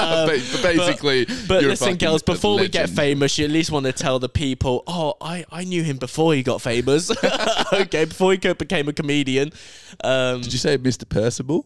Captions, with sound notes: (laughing) - Basically, you're a fucking religion. - But listen, girls, before we get famous, you at least wanna tell the people, oh, I knew him before he got famous. (laughing) Okay, before he became a comedian. - Did you say Mr. Percival?